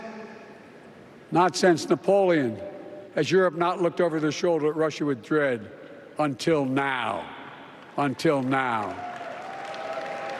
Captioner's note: applause